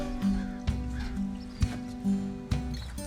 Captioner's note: oinks